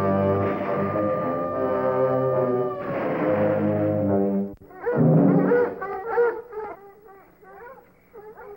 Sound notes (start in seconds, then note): 0.5 gunshots; 5.2 dogs barking